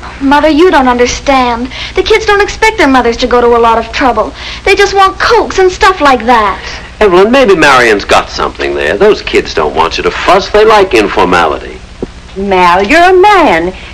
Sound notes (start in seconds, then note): none